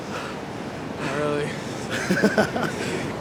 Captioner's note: laughs